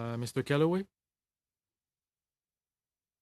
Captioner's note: speaking French